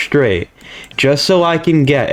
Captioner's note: inhales Oxygen